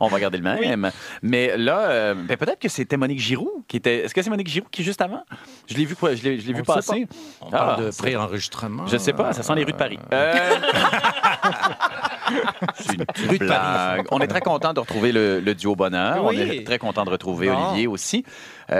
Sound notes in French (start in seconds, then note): 10.2 rires